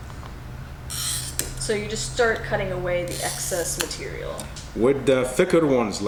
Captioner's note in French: cracking